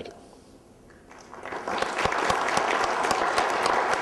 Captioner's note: applause